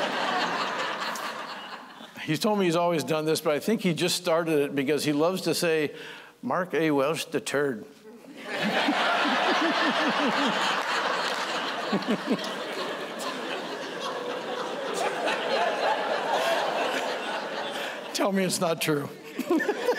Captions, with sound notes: [LAUGHTER] >> HE TOLD ME HE'S ALWAYS DONE THIS, BUT I THINK HE JUST STARTED IT BECAUSE HE LOVES TO SAY "MARK A. WELSH THE TURD." [LAUGHTER] [LAUGHTER] >> TELL ME IT'S NOT TRUE.